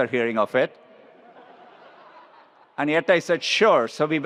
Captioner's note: attendees laughs